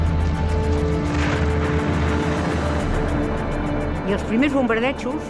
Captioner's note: tense music; crashing; speaking foreign language